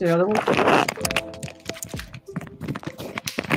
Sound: rustling

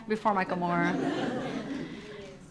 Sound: audience laughs

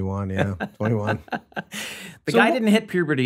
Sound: glenn laughs

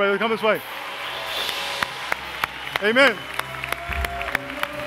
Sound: applause

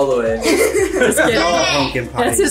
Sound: group laughs

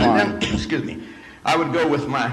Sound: coughs

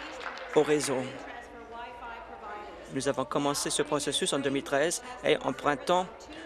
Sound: applause

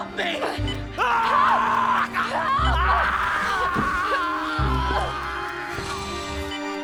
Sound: screaming

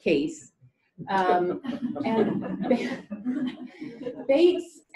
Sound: laughter

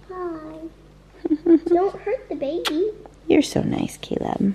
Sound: giggles

